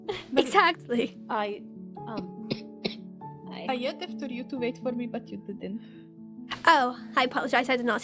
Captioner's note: STONE coughs